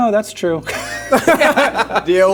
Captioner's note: laughing